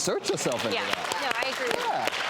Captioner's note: audience applauding